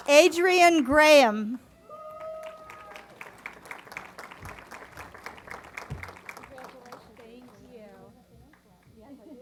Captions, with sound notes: Adrienne Graham. [ Applause ] >> Congratulations >> Thank you.